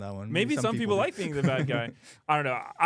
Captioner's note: laughs